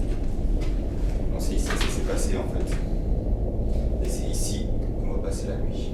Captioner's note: speaks French